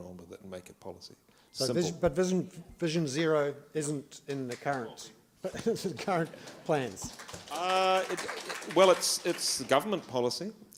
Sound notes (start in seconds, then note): 5.9 applause